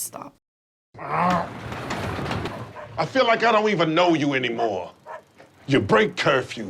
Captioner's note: grunts